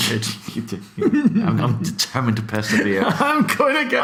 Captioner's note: laughs